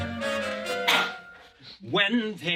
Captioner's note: cough; singing